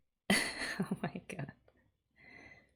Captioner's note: laughs